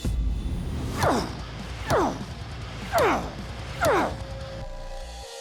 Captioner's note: grunting